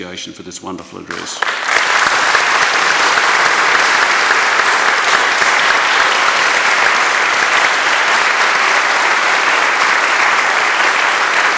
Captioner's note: applause